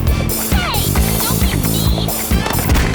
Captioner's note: gasps